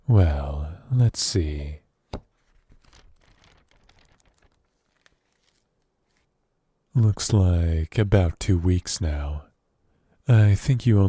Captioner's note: paper flip